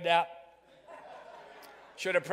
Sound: crowd laughing

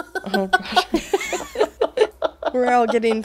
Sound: both laughing; laughs

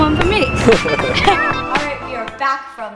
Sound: laughing

